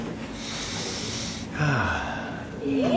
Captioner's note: sighing